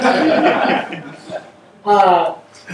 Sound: audience laughter

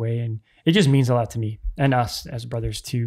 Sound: none

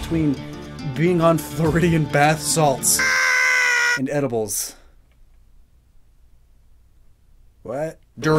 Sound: high-piches rabid yelling

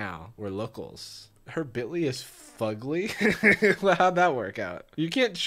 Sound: laughs

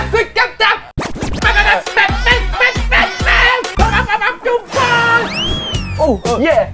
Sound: mimics the music played at a temple fair

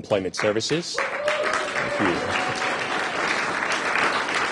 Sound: applause

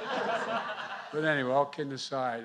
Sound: laughter

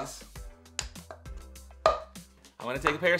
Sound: cups popping

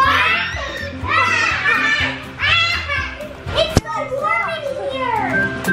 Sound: screeching and laughing

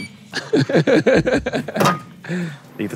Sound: both laughing

